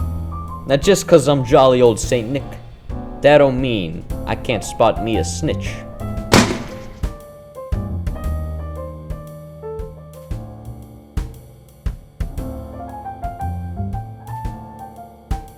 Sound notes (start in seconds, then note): 5.8 gunshot